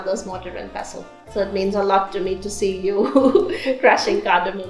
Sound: chuckles

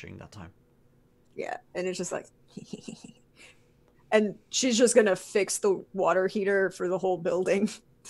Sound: laughing

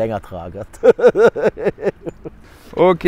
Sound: laughter

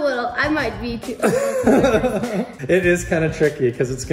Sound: both laughing

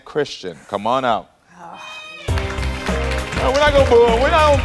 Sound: audience weakly applauds

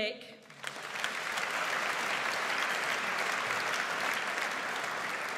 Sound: audience applauds

